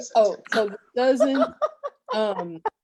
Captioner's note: laughing